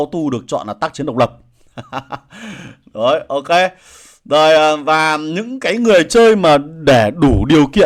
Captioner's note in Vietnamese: tiếng cười